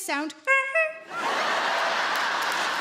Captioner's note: Sarah imitates horn honking; audience laughing and clapping